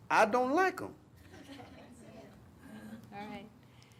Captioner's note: crowd murmuring